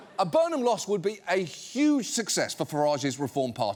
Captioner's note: none